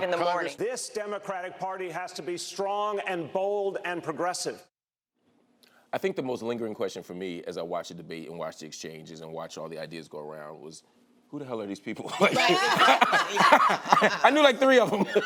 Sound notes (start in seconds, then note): 12.0 laughter; 14.9 laughs